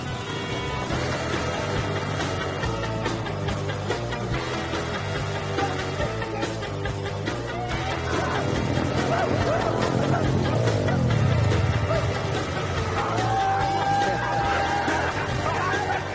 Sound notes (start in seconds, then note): 0.2 motorcycle rumbling; 2.5 upbeat music; 8.5 motorcycles roaring screaming; 13.2 actors yelling and cheering